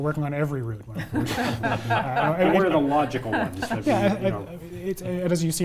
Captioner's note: laugh